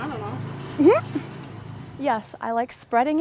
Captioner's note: giggles